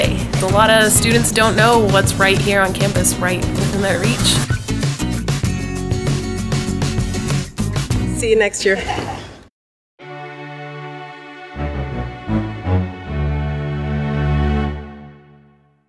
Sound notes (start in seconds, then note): 8.7 laughing